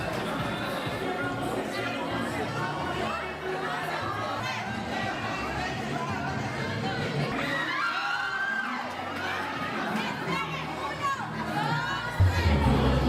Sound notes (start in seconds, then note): 7.4 screams